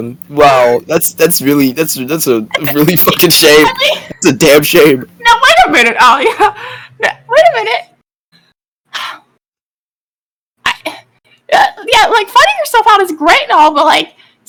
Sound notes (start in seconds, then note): 9.0 sigh